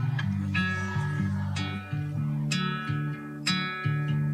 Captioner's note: audience applauding